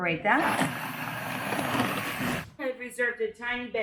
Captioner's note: mixer whirring